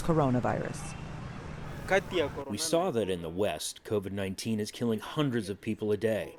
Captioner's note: through translator